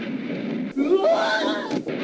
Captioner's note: yelling